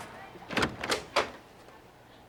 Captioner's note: door opens